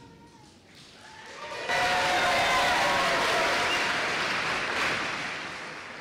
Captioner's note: applause